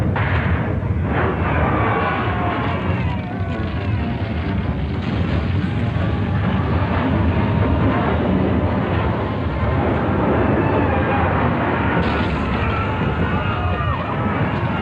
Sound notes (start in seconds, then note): 1.3 people yelling